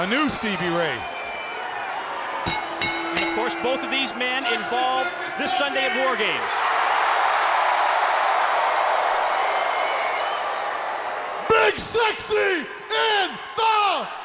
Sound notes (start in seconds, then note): 2.4 bell ringing; 7.4 crow cheering